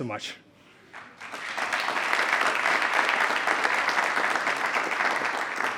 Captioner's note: attendees applauding